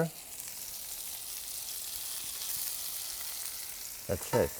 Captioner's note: pan sizzles